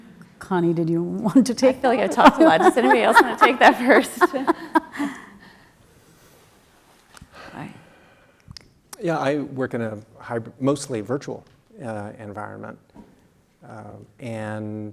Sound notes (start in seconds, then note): 5.4 laugh